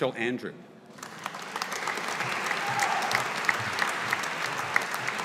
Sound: audience applauding

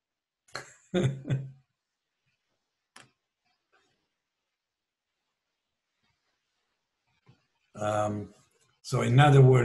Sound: laughs

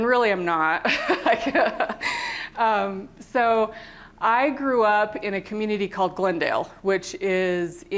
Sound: laughter

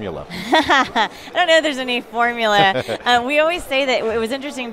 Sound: laughs

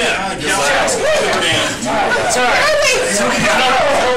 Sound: distorted shouting

